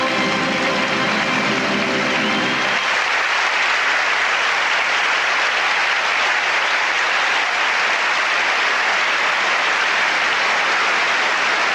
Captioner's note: applause